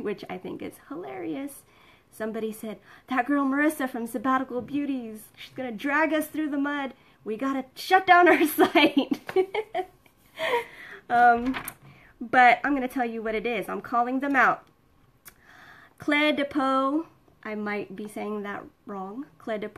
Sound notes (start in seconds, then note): 10.0 laughs